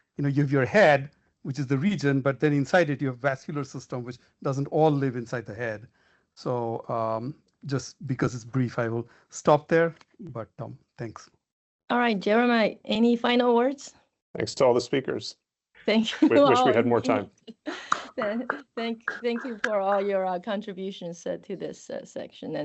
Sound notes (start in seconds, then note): 16.0 laughing